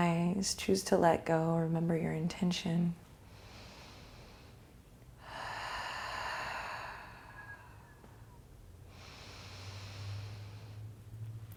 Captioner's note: breathing